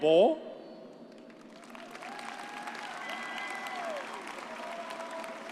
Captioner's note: audience cheers